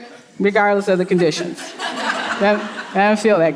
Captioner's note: audience laughing